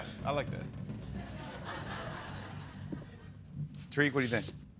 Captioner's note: laughter